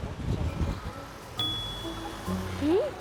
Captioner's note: car coming up to the sidewalk